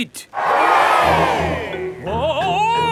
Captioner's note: crowd cheers